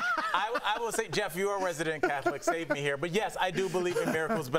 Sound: laughter

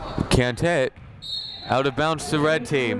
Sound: whistle blowing

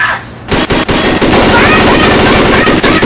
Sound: gun fire

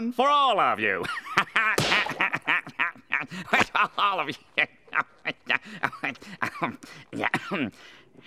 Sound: laughing

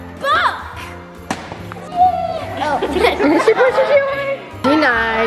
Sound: everyone laughs

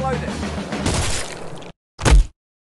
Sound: gunshot

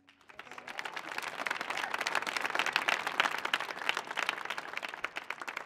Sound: audience applauding

